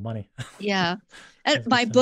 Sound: chuckles

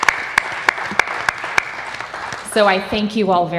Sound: applause

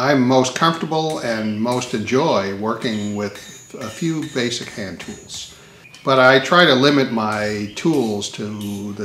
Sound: sound of hammering tool continues

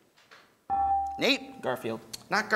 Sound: ding

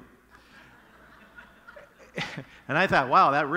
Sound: congregation laughing

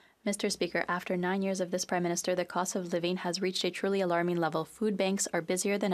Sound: speaking French

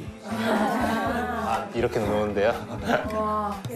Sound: hee hee

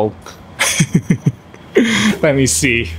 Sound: laughs

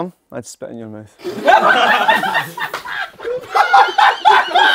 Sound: people laughing

